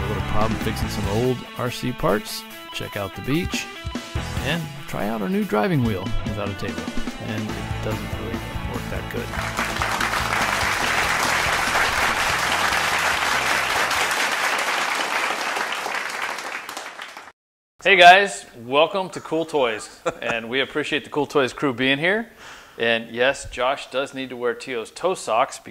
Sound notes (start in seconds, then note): 9.0 applause